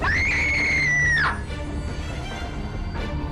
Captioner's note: screaming